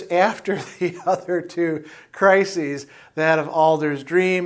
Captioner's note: laughs